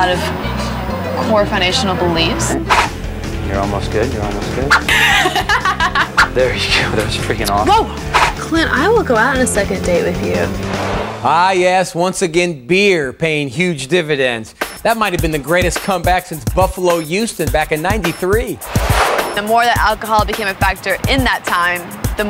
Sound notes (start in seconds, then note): 4.7 laughing